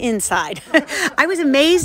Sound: giggle

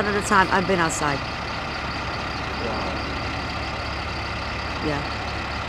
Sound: trucks engine roaring

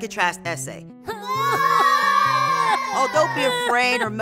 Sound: children moaning

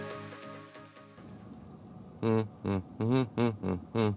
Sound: humming

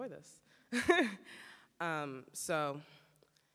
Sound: chuckles

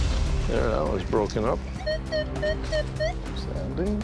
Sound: beeping

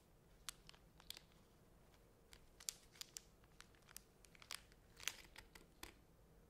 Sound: scissors cutting crinkling plastic

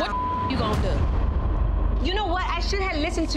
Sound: beep

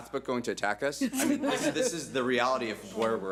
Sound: audience laughs

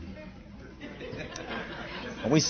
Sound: laughter

